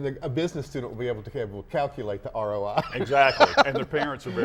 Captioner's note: laughs